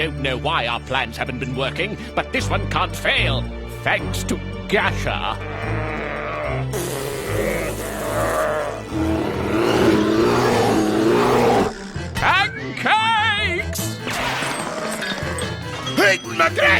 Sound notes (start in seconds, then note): 5.2 grunting; 7.5 blowing raspberry; 9.8 howling